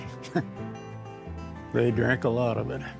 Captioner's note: chuckling